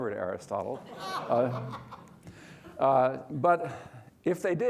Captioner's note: crowd laughing